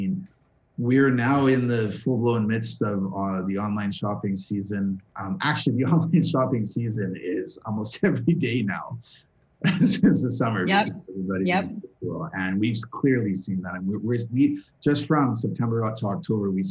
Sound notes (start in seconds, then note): 9.6 laughter